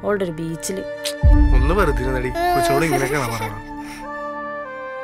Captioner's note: Ichu crying